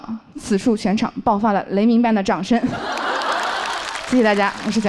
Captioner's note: thunderous applause erupts from the audience